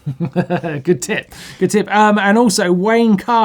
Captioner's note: chuckles